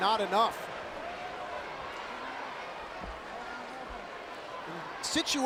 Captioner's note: crowd murmuring